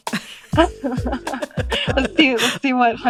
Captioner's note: laughter